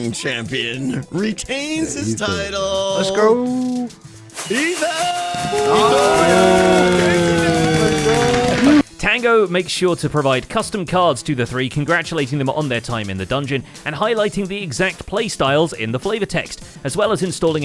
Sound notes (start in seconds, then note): 7.4 fireworks; 8.9 cheering